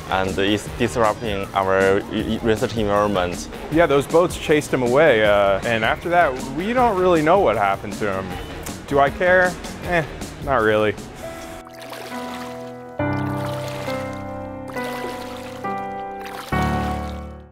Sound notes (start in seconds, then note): 11.1 water splashing; 12.5 somber instrumental music